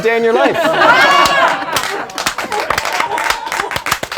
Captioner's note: laughing